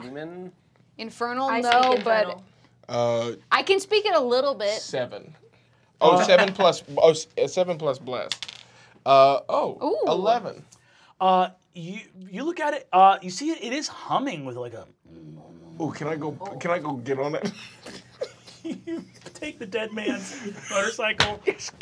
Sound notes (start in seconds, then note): 14.2 vibrating; 17.5 laughing